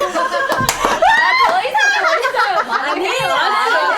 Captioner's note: everyone dies laughing